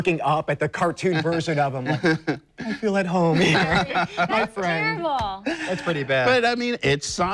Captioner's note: laughs